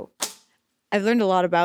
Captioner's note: cards thudding